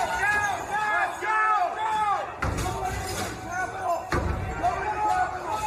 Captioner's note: crowd chanting